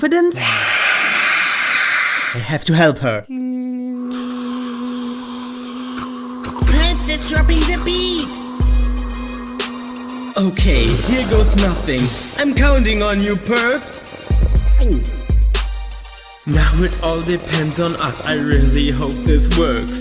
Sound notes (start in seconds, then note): 0.8 whisper screams; 14.7 gulps